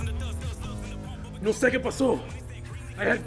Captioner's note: Spanish